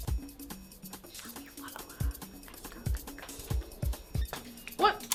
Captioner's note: whispering